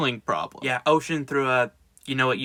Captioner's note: sounding defeated